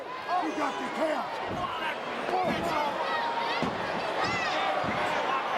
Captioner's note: crowd chattering